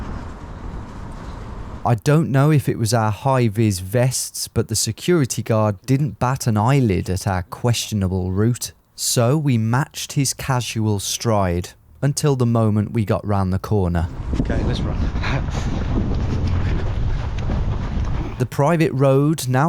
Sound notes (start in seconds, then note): 15.1 chuckles; 15.6 footsteps racing